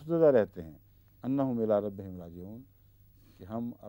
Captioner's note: Arabic